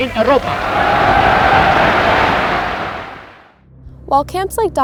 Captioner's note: audience cheering